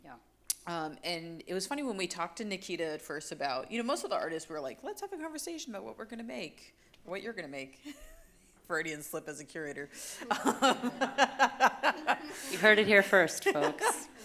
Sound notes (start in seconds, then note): 10.2 laughing; 10.2 chuckles; 10.2 audience laughing